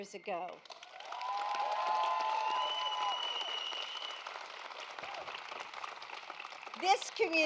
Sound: applause

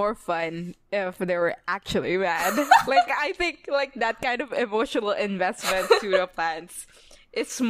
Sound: laughs

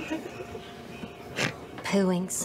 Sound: quiet laughing from a few of the cast is audible; the cast continues laughing; Laura snorts

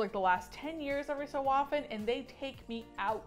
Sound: none

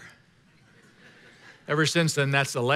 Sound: congregation laughing

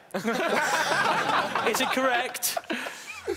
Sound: laughing

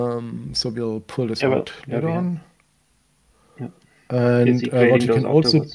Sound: faintly speaks

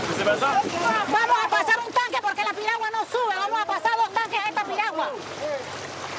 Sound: Spanish spoken audio

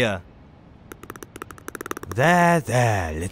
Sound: dog chatters

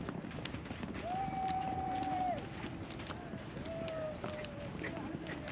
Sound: cheering; speaking in foreign language

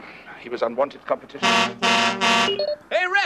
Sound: honk, honk, honk

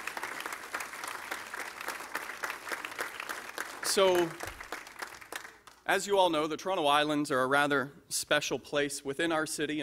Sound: applause

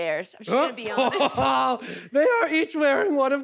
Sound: laughing

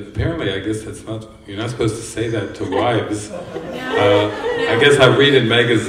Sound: laughter

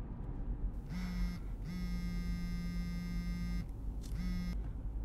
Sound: phone vibrating

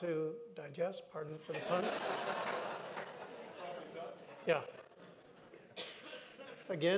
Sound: laughter

